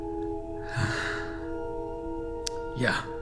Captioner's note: sighs